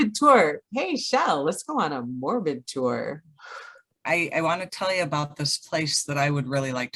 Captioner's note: exhales